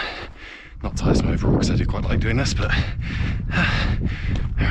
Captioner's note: exhale